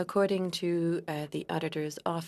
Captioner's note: speaking French